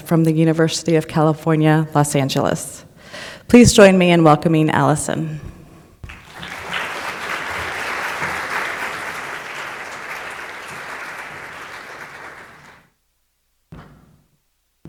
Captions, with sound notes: from the University of California Los Angeles. Please join me in welcoming Alison. (audience applauding)